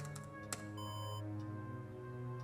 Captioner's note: alarm